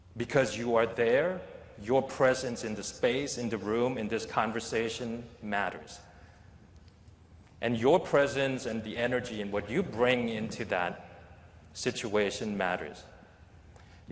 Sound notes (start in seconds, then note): none